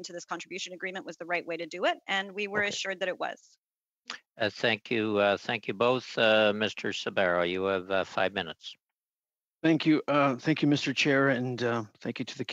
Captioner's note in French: voix de l'interprète